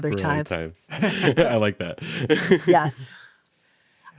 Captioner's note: laughs